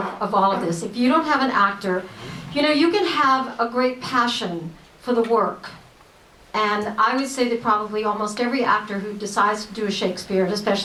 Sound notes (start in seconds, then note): none